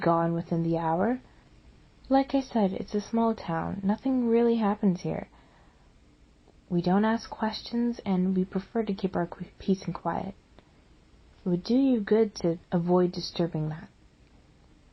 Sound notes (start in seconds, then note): none